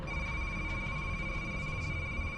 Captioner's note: high-pitched digital ringing